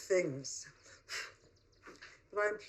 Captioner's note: blows on photograph